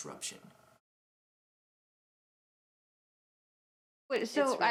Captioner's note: silence